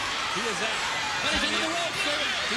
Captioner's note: crowd cheering